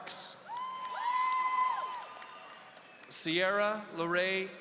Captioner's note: audience cheering